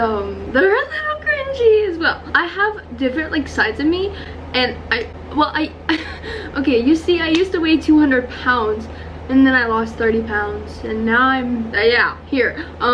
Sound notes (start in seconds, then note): 6.1 gasps for air